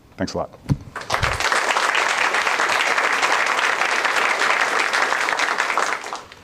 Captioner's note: applause